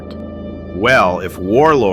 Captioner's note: excited